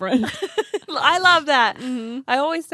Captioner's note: laughs